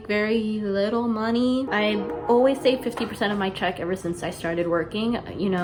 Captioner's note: train choo choos in distance